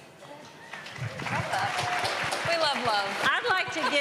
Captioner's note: applause